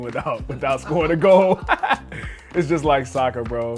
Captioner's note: laughing